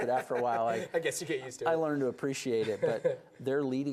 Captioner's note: laughs